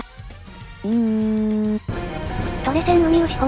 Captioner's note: sob sob sob